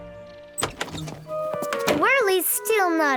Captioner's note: door clatters